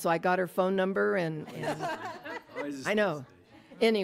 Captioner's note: audience laughs